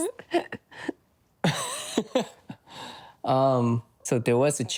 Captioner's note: nervous laughter